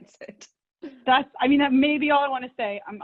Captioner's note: laughs